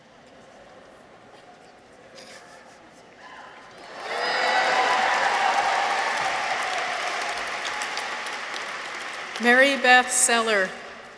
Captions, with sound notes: (audience chuckles) -(audience cheers) -(audience applauds) Mary Beth Seller.